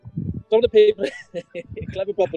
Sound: chuckling

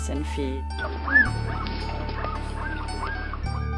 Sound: puppies nursing

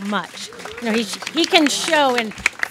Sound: audience claps

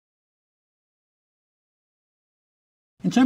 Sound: none

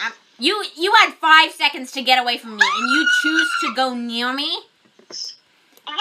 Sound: screams

